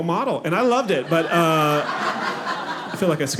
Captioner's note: audience laughing